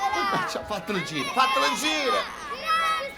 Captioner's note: kids all shouting